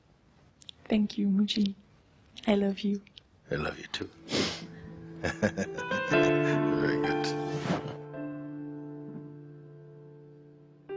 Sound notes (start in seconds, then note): 5.2 Mooji chuckles; 5.2 questioner laughs